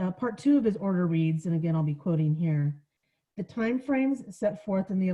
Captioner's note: none